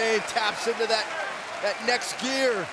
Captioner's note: crowd cheering